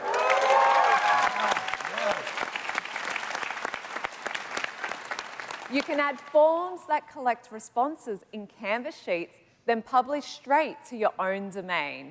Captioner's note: cheers and Applause